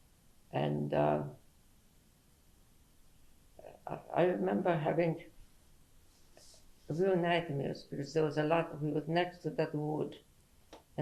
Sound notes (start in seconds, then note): 1.1 pauses for 3 seconds